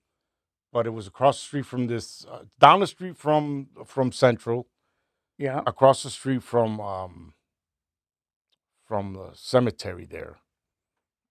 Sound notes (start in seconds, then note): none